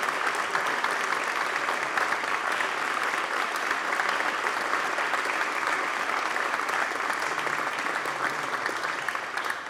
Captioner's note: applause